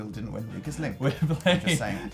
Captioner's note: giggle